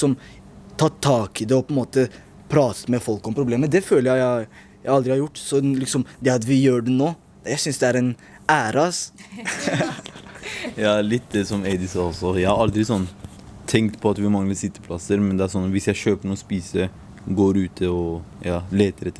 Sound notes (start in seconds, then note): 9.2 laughter